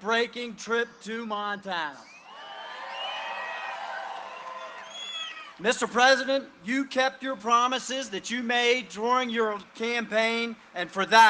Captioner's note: cheering and applause